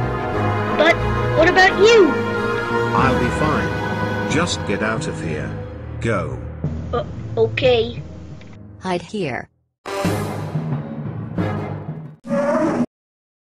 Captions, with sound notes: But... what about you? I'll be fine! Just get out of here. Go! Um, okay... Hide here! (roar)